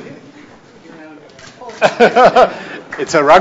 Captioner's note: cameras clicking; laughs